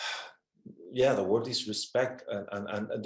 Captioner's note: exhales